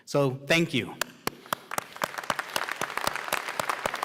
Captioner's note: applause